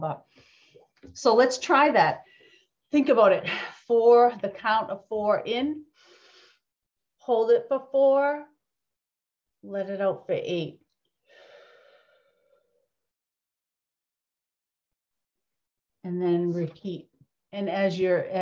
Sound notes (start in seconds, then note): 5.9 breathes in; 11.3 exhales